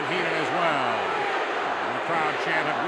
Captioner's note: crowd chants "Weasel"